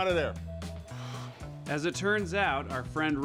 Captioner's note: Jake sighs